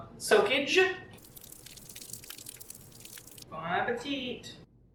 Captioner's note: liquid pouring sound effect; boings and sproings while heavy cream pours